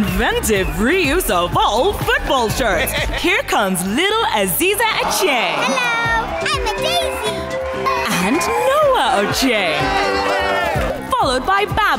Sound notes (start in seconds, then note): 8.0 cheering; 11.0 cheering